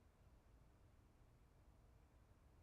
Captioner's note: none